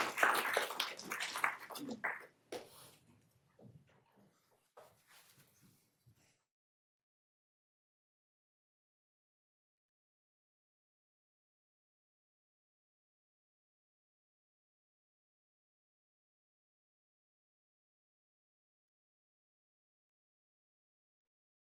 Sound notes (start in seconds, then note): 9.1 applause